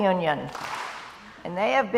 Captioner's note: crowd applauds